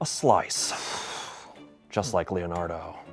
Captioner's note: sighs